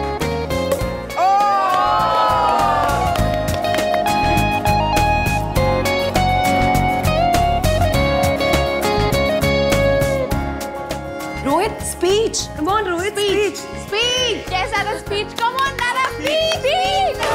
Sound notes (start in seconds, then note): 0.6 all shouting; 0.6 bottle opens